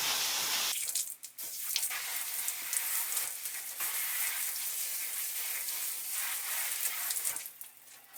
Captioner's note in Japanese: シャワー音